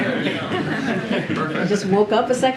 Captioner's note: laughter